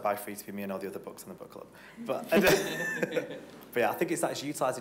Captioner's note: laughing